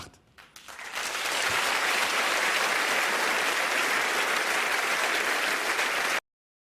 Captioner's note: Applaus